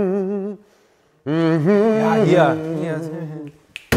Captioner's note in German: Gefühlvolles Summen